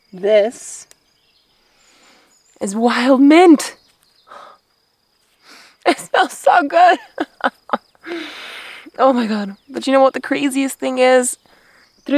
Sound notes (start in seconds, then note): 0.7 sniffs; 3.3 birds chirping; 5.5 sniffs; 7.4 whimpers; 8.0 sniffs